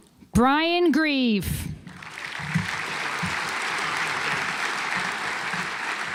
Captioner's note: audience applauds